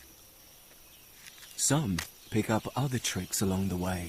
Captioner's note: birds chirping